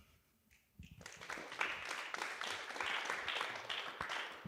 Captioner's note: applause